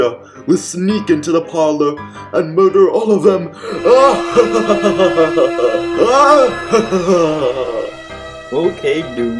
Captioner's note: evil laughter